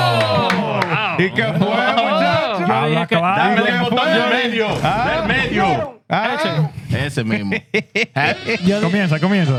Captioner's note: cheering; speaking In Foreign Language